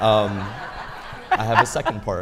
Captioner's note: audience laughing